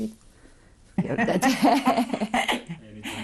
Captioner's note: laughter